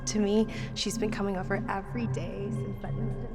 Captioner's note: echoing